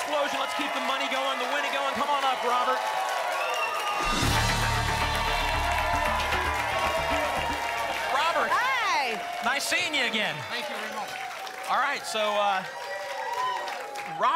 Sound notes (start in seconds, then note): 6.1 applause and cheering cont; 13.0 applause and cheering cont